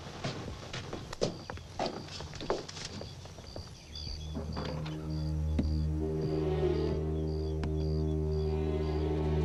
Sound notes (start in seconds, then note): 2.8 crickets chirping; 5.9 low foreboding music